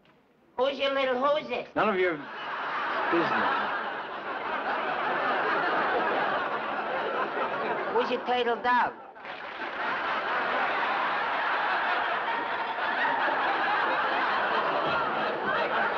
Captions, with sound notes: Who's your little whozis? None of your... ( laughter ) business. Who's your turtledove? ( applause )